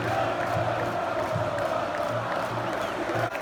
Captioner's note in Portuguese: Palmas ritmadas